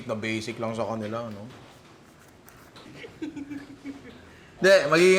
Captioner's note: laughs